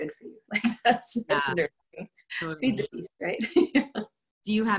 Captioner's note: laughter